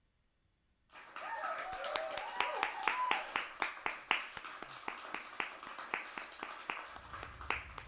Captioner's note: applause and cheers